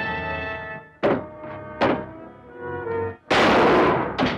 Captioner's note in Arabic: طرقات الباب; صوت طلقات نارية